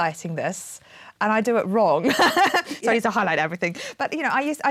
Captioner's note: laughing